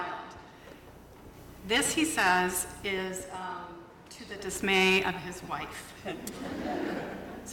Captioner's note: laughter